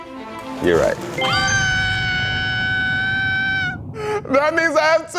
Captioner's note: screaming